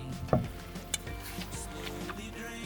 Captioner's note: knocks